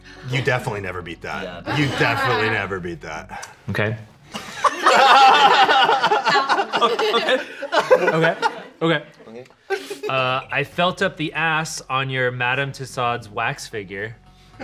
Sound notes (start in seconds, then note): 4.4 everyone laughs